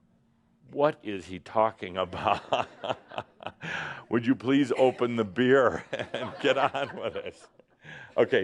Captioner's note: Adamus chuckles